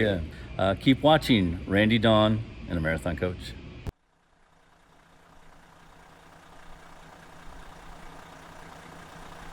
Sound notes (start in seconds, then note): 4.4 engine running